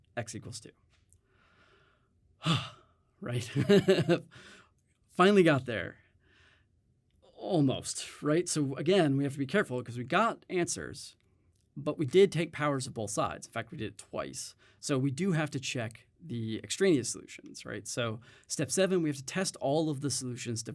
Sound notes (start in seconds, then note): 3.4 chuckles; 4.3 exhales